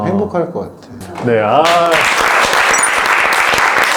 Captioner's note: applause